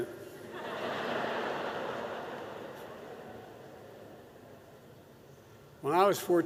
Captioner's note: laughter